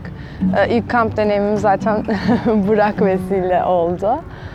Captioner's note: laughs